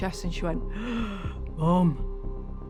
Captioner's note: gasps